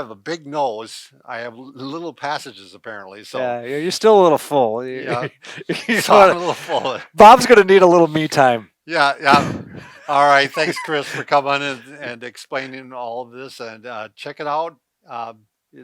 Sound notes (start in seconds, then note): 5.0 laughs; 9.2 laughs